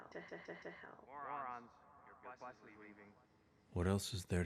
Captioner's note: narrating